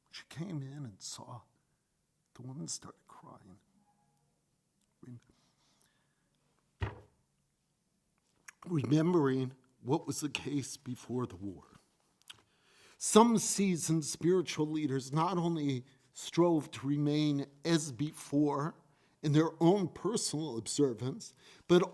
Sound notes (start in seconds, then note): 6.8 fist thumps